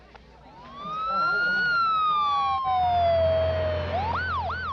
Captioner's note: sirens